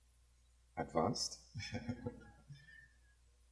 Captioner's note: laughs